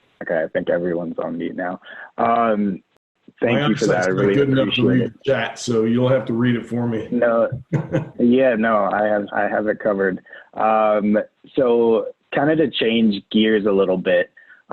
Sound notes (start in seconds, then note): 6.8 giggling